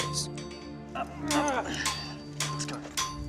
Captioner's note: man grunts